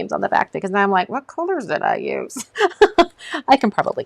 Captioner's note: laughs